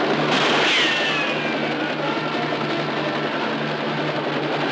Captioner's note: gunshot ricocheting